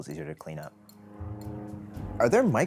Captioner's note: airplane whirrs